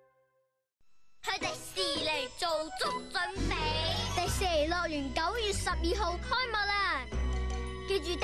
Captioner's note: kid speaking Cantonese